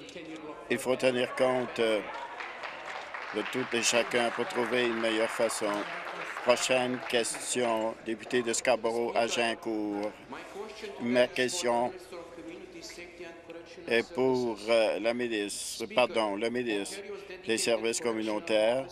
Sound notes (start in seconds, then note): 5.6 applause